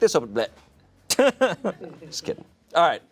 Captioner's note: chuckles